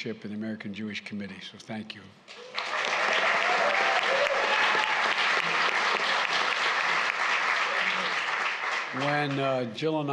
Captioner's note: applause